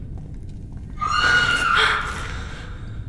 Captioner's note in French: Cri au loin